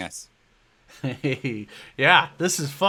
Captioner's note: laughs